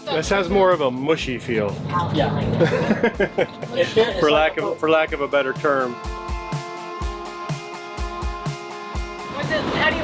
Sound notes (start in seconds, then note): 2.5 chuckles; 6.1 bright upbeat music